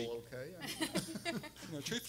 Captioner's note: everyone laughing